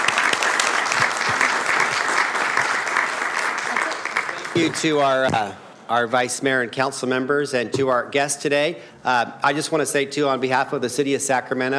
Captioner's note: applauding